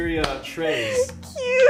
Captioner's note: laughing